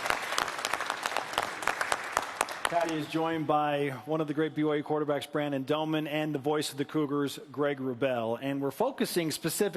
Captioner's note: applause